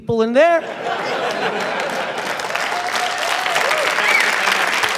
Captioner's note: applause, cheering